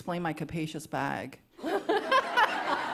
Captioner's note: laughter